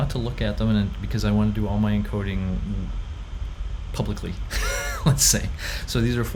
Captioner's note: laughs